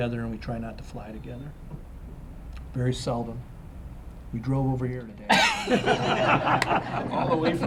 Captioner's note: laughter